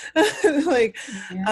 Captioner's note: laughs